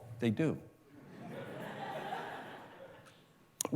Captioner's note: laughter